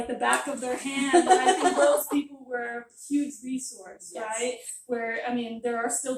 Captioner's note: laughter